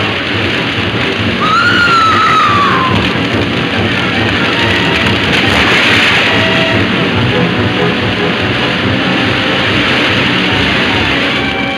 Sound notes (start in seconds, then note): 1.4 Mary screaming; 9.0 water crashing